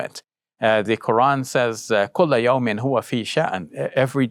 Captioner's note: speaking in Arabic